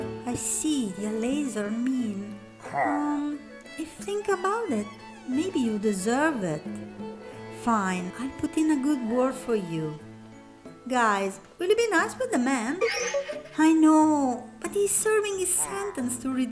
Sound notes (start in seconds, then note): 12.7 chortles